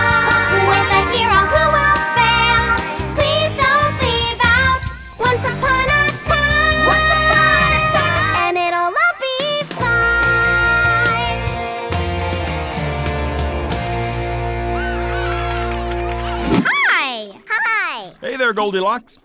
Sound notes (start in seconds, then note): 14.7 cheering